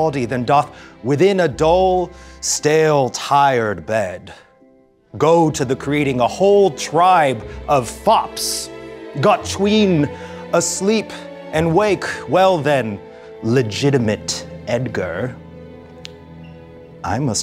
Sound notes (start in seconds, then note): none